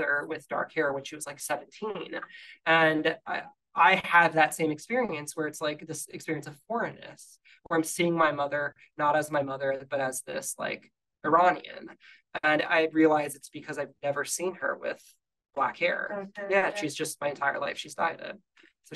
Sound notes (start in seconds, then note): none